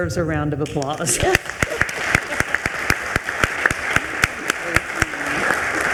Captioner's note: attendees applauding